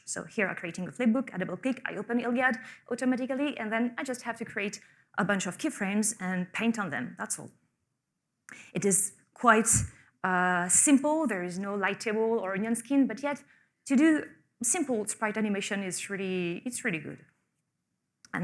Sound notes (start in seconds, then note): none